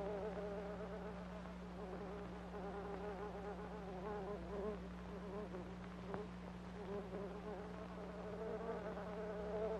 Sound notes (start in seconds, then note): 3.6 fly buzzing continues